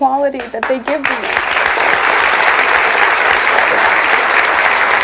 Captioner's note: audience applauds